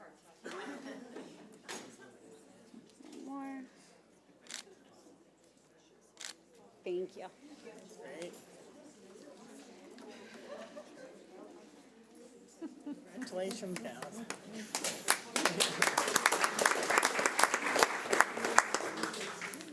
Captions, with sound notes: One more. Thank you. (audience applauding)